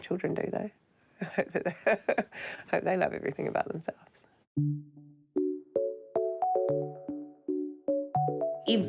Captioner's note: chuckles